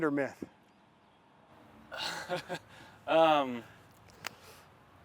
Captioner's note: laughter